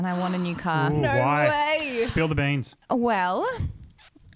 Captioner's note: gasps